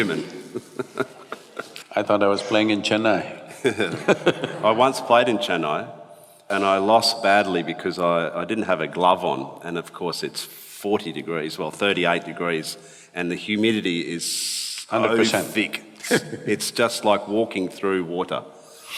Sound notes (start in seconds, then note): 0.0 laughs; 3.6 both laugh; 14.9 laughs